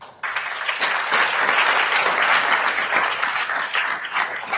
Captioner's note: attendees applauding